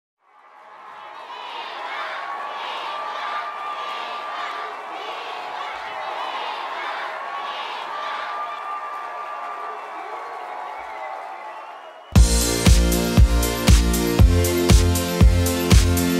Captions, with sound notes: (crowd cheering) - [Crowd] Kidz Bop! Kidz Bop! Kidz Bop! Kidz Bop! Kidz Bop! Kidz Bop! (crowd cheering fades out) (upbeat music)